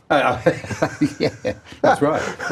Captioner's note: laughing